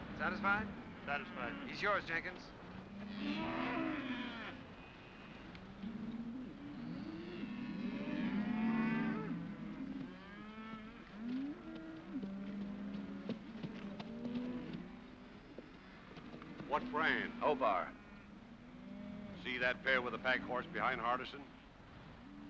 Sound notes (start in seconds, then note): 2.9 cattle moo; 22.2 cattle moo